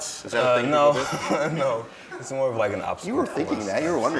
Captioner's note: laughs